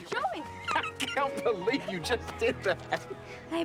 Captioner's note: laughs